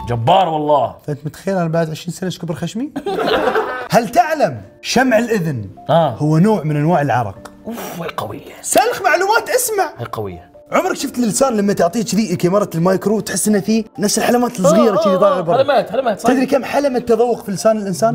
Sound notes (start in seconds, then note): 3.0 laughing